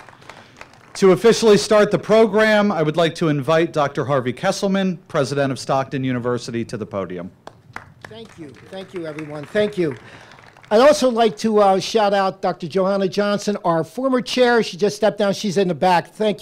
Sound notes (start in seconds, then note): 7.4 applause